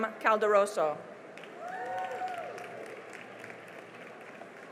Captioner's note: cheering and applause